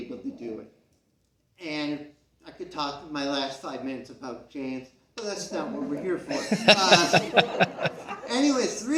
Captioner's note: CROWD laughs